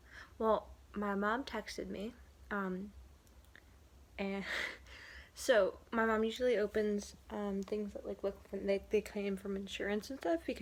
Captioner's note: laughs